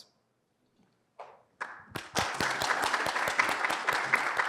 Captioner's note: applause